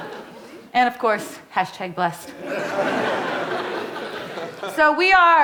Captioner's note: audience laughing